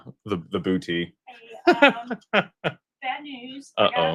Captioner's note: laughter